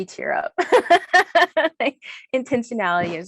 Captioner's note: laughs